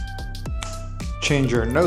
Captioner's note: fingers snapping